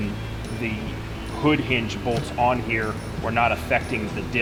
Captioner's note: metal clicks